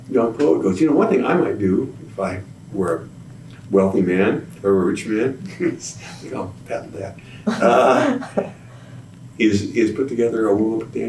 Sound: laughs

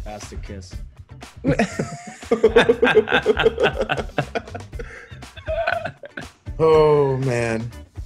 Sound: laugh

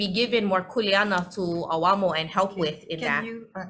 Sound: speaks foreign language

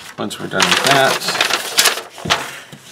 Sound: paper rusting

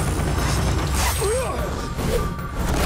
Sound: grunting

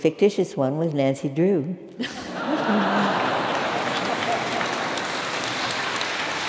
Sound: laugh; applause

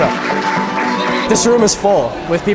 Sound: clapping

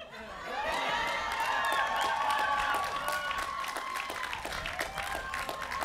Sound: cheering

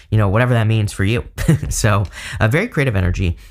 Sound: chuckles

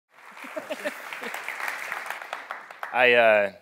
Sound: audience applauding

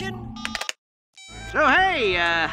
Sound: beeps

